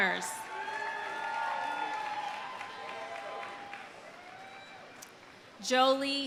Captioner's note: audience cheering; audience applauding